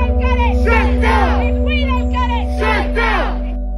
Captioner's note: crowd